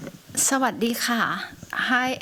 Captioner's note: non-english